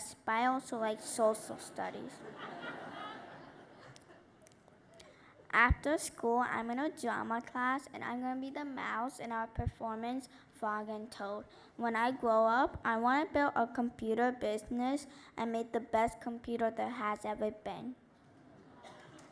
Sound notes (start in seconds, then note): 1.6 laughter